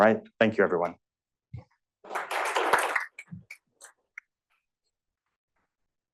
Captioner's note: applause